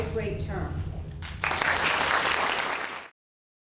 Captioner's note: applause